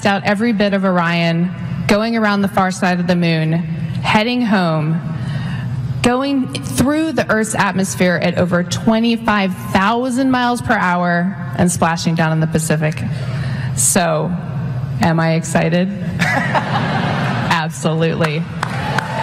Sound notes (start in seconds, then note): 16.2 laughter